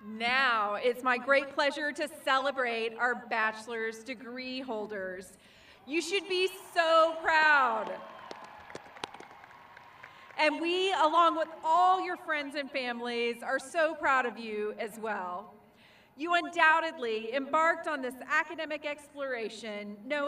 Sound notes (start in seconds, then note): 8.1 crowd cheering